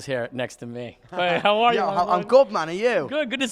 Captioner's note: laughs